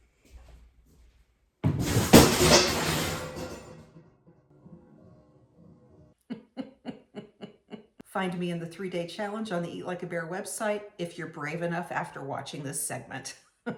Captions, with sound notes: (loud clattering) (woman laughing) Find me in the three day challenge on the Eat Like a Bear website. If you're brave enough after watching this segment.